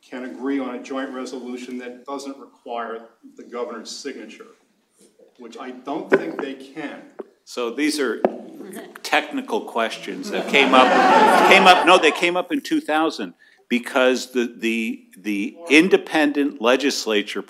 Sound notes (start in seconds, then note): 10.2 laughter